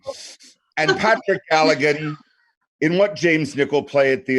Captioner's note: laughing